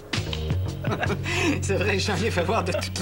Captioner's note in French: Rires